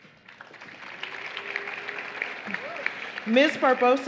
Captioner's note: applause